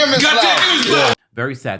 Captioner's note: cheering